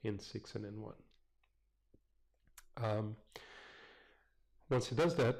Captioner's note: pause